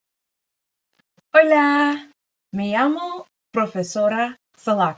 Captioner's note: speaks in Spanish